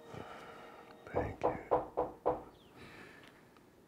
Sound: knocks on the door

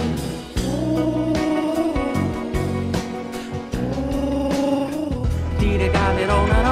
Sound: pigeon noises

